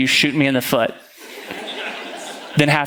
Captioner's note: congregation laughing